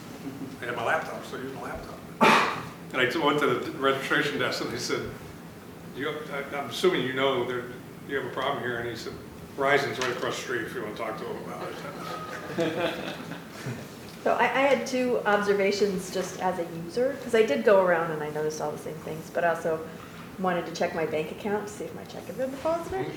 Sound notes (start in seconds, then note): 11.6 laughter